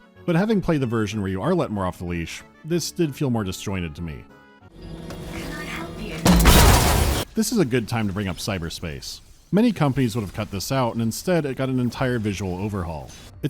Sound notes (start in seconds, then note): 4.8 thonk-BOOSH